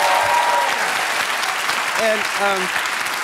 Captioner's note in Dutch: applaus